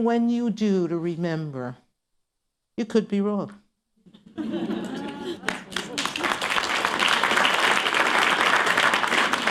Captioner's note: laughter and applause